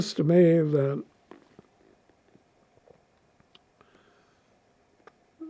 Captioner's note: pauses 6 seconds